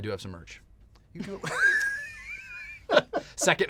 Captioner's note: laughter